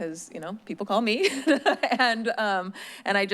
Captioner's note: laughing